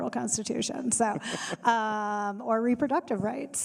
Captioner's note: panelists laughing